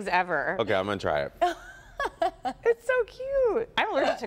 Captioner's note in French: laughter